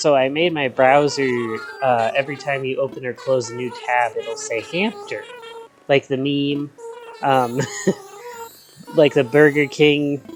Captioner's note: laughs